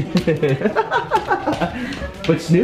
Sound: laughs

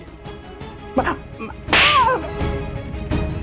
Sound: slapping

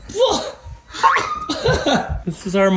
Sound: chuckles

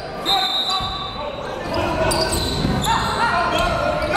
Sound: whistle blows

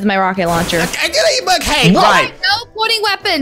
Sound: stammers

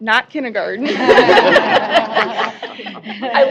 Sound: laughter

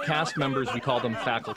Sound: laughter

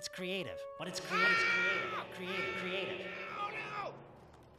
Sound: echoing

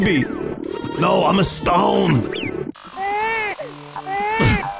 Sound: DiC Mario voice; Baby mario Crying sound; laughs

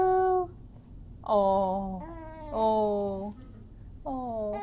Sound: baby coos

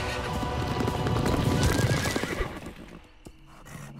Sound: neighing

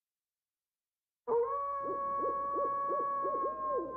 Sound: wolves howling

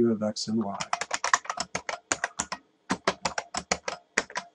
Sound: keyboard clicks

